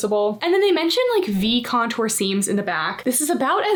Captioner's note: text whooshing